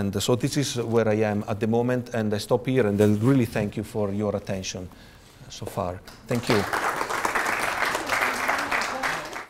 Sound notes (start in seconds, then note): 6.3 audience applause